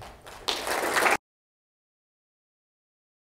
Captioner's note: applauding